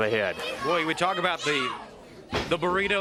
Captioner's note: crowd cheering